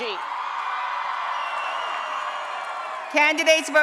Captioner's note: applause and Cheering